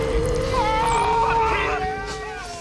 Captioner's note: screaming